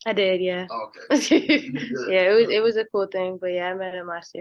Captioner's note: laughs